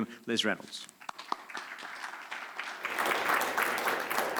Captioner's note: applause